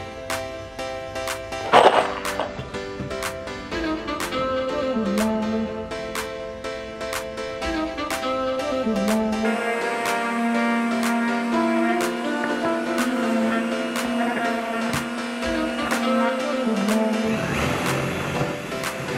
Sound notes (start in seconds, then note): 1.5 nails jingle